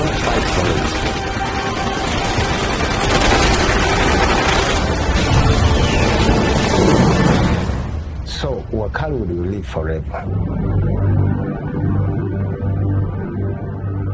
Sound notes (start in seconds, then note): 0.1 gunfire; 5.0 huge explosion; 10.2 low dramatic orchestral music